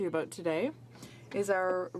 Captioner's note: speaking in french